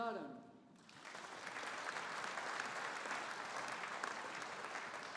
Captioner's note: audience applauding